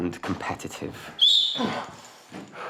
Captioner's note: whistle